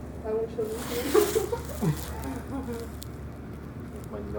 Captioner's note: group laughing